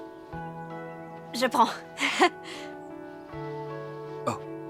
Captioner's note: chuckling